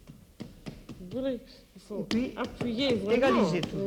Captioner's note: conversing in French